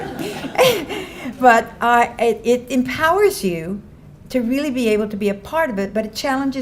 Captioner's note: laughs